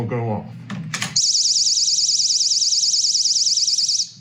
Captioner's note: alarm sound